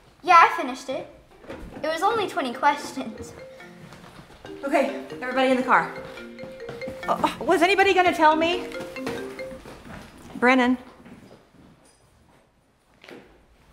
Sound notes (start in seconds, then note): 3.3 cellphone ringing; 6.2 cellphone ringing